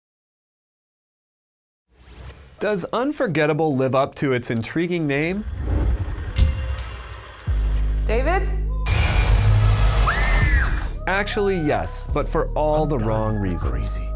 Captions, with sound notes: Does Unforgettable live up to its intriguing name? "David?" [Screams] Actually, yes, but for all the wrong reasons.